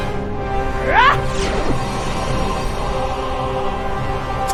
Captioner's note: Xu Xang grunting